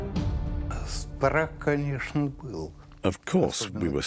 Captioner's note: speaking Russian